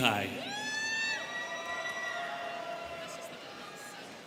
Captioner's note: students cheering